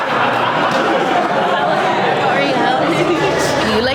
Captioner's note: group chattering